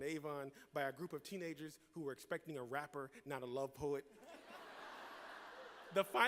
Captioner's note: laughter